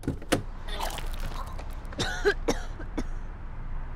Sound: vomits

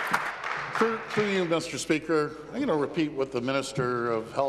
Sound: applause

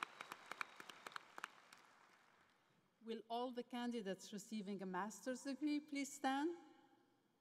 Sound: cheering and Applause

